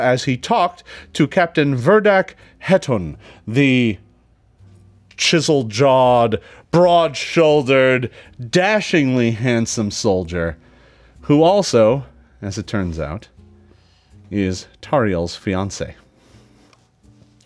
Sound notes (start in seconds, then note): none